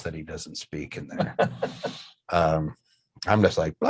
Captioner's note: laughs